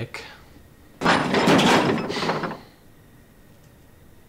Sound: crashing sound

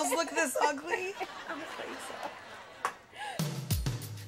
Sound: laughing

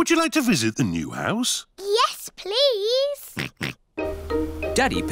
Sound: oinks

